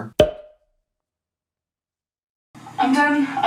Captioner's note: light popping